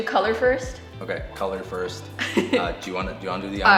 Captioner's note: laughs